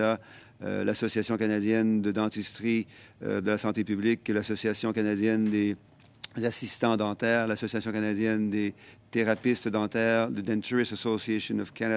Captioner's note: speaking French